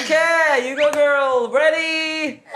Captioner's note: slap!!